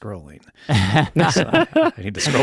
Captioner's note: laughing